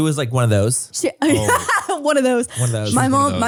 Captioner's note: laughs